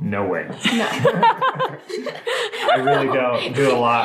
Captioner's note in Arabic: الكل يضحك